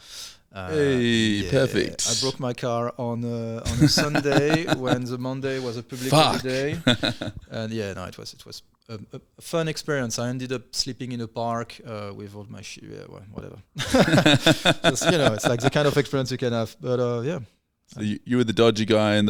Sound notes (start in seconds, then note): 13.8 laughing